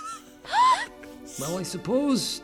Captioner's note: gasps